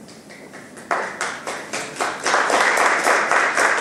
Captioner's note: applauding